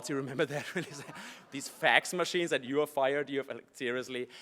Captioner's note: laugh